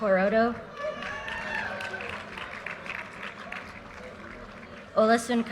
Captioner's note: audience cheers and applause